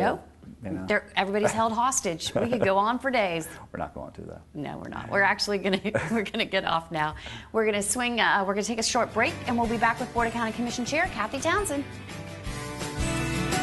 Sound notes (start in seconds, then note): 3.8 laughing; 13.1 upbeat music